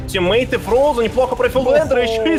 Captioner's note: announcers speak foreign language